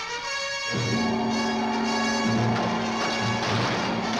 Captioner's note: gong resounds